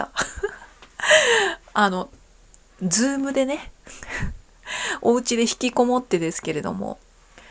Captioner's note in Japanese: 笑い; 息をのむ音